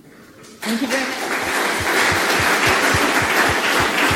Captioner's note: applause